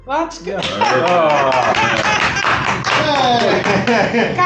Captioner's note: applause